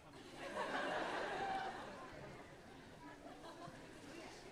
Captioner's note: audience laughing